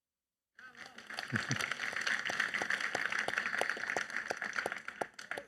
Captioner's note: audience applauding